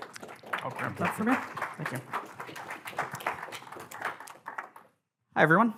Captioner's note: audience applauding